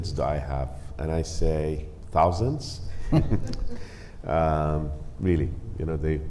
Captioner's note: laughs